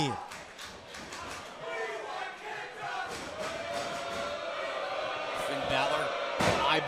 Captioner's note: crowd chatter